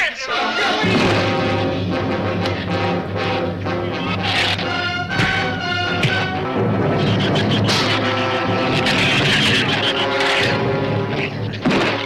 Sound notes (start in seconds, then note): 0.2 dramatic orchestral music; 5.0 fist thuds; 6.2 shrews chatter